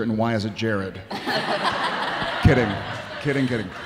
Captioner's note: audience laughing